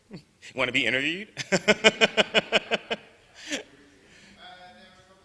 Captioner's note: laughs